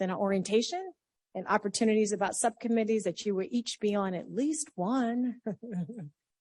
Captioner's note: laughs